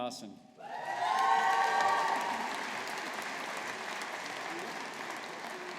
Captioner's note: audience applauding